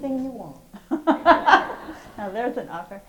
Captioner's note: host and audience laugh